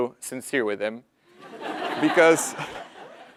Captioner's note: laugh